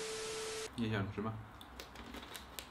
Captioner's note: the sound of unpacking